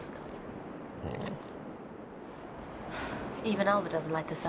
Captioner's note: Alvar groans